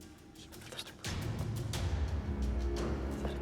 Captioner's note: courtiers whispering